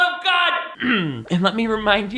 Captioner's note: clears throat